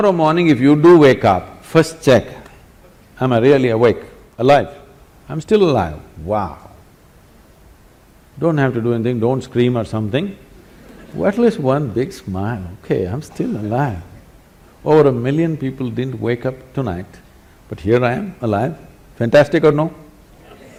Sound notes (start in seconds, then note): 10.6 laughter